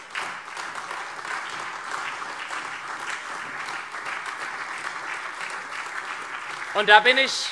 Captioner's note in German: Beifall SPD, AfD, Freie Demokraten, vereinzelt CDU und BÜNDNIS 90/DIE GRÜNEN